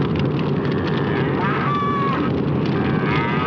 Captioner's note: cow MOOING